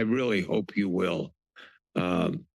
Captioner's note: pause